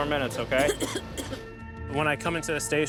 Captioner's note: coughing